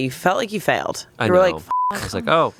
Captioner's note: beep